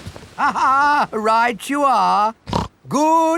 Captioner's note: laughs; snorts